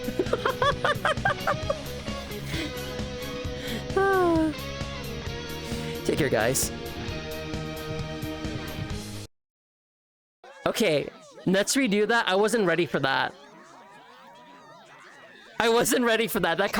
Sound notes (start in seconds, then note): 0.0 laughter; 3.6 sigh